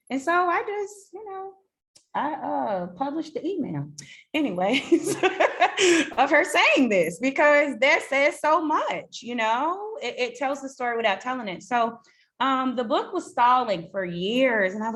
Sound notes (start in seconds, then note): 4.8 laughs